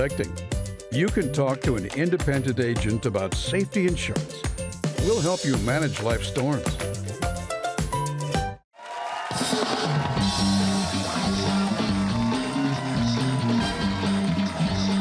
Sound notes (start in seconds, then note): 8.7 cheers and applause